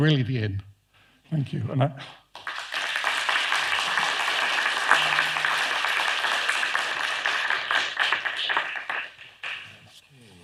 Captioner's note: applause